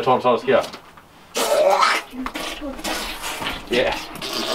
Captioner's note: making noises of a person being squashed